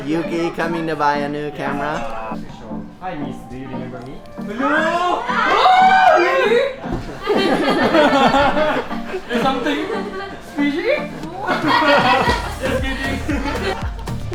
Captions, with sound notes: Yuki coming to buy a new camera. - Hi miss, do you remember me? (screams) (chuckles) - There's something fishy. (chuckles) Just kidding.